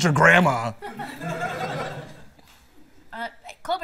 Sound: laughter

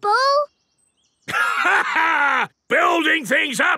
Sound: laughs

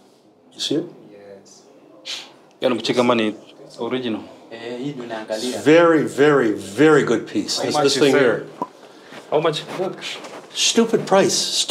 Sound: speak Swahili

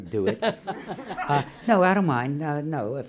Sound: laughing

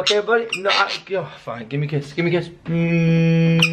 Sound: groan; squawk

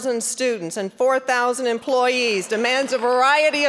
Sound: applause

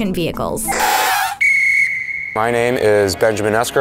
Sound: whistle blows

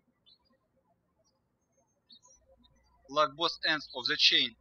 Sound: birds chirping

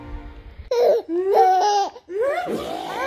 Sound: giggles; chuckles

